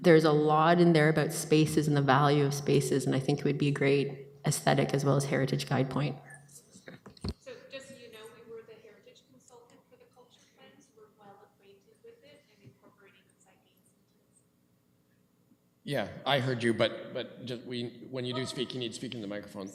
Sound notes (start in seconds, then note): 9.0 mic off